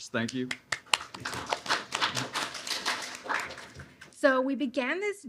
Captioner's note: applause